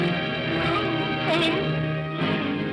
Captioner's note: suspenseful music; Scrooge cries out; Scrooge moans; ominous upbeat music